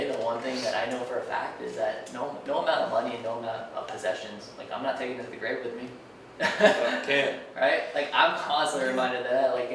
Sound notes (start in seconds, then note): 6.4 laughing